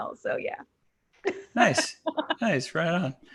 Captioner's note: laughing